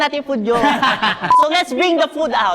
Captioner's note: laugh